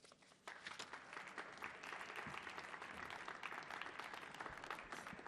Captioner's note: audience clapping